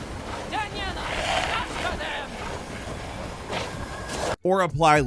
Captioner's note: Dimitrescu shouting